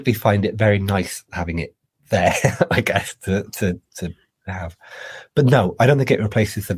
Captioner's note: laughs